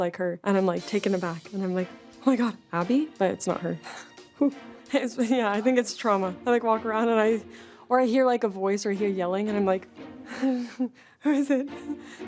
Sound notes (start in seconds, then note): 3.7 sighs in relief; 4.6 chuckles nervously; 10.3 nervous chuckle